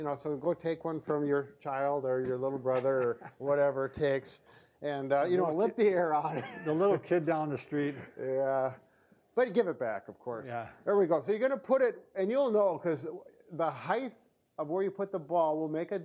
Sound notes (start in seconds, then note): 6.2 laughs